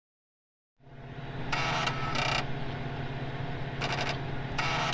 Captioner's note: electronic noise